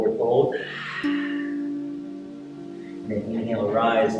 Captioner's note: exhaling